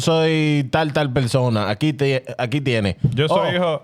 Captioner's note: speaking In Foreign Language